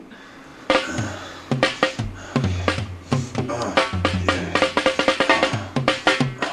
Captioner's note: man grunting; heavy rock music